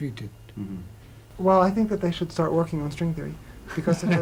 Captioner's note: laughter